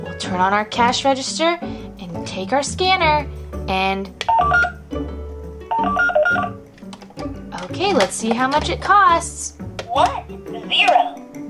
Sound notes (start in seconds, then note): 4.2 scanner beeping